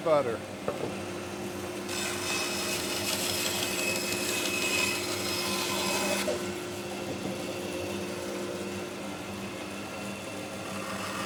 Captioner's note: bandsaw whirring